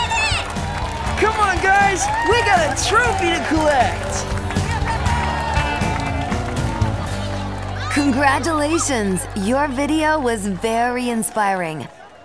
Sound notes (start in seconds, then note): 0.3 crowd clapping; 3.9 crowd clapping